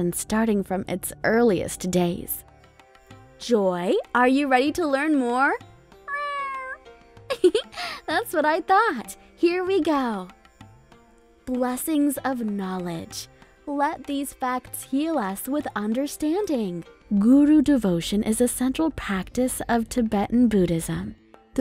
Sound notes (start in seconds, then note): 6.1 Joy purring; 7.3 giggling